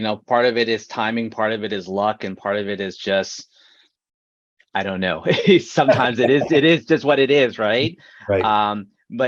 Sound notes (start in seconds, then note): 5.3 chuckles